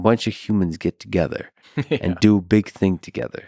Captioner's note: Tim laughs